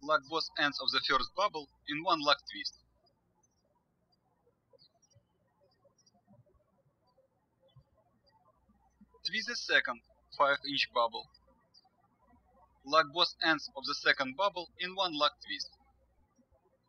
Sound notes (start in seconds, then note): 3.4 birds chirping